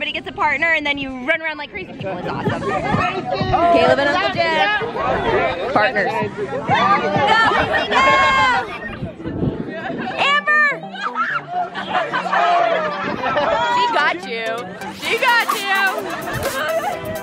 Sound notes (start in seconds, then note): 2.6 girls laugh; 6.5 yell and laugh; 11.4 laughs